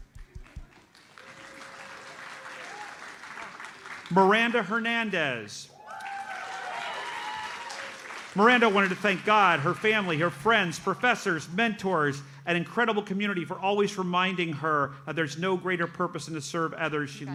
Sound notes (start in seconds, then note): 0.2 audience applauds; 5.7 audience cheers and applauds